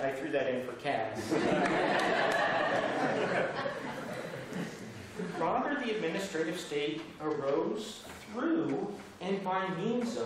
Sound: laughter

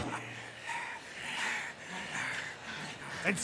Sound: out of breath pirate sounds

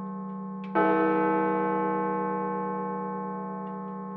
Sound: chime

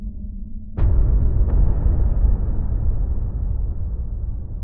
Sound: dramatic noises

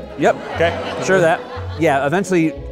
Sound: audience laughing

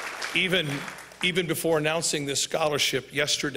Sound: applause

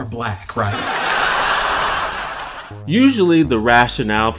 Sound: audience laughter

